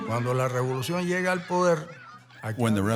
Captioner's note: speaking in Spanish